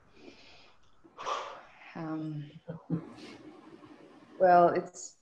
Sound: sighs

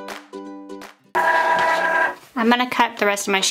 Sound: Cricut machine whirring

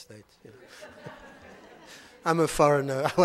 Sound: audience laughing

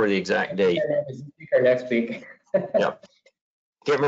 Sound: laughing

